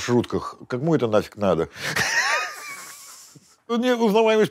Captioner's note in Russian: смеется